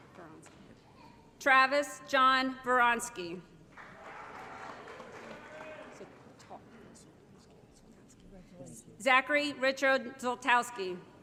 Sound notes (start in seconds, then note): 3.7 applause